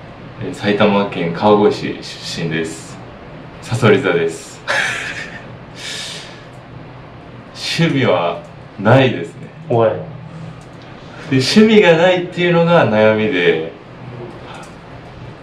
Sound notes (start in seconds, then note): 4.6 laughs